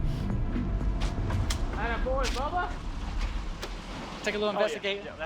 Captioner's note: hands smack